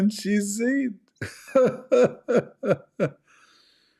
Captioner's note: Ketawa